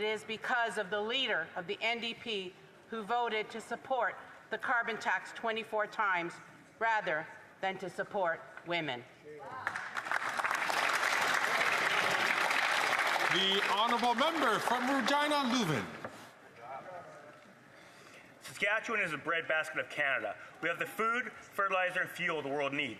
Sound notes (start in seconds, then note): 16.4 some Applause